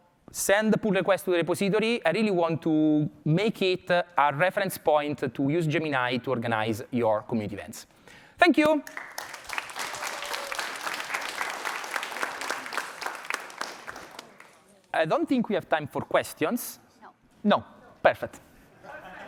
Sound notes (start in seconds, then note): 8.6 applause